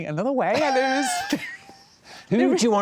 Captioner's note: laughter